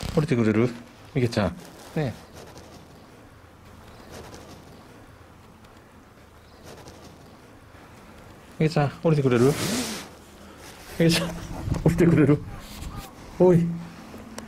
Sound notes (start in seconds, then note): 11.0 laughs